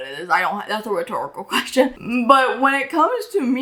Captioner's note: laughs